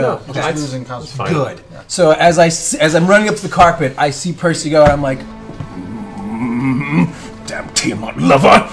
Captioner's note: growls